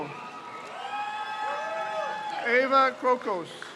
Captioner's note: crowd cheers